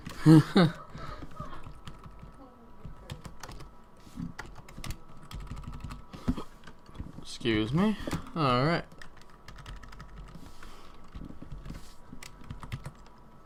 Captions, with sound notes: [GIGGLING] Excuse me. All right. [TYPING]